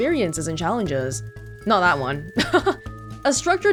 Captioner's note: chuckles